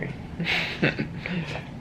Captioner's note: chuckles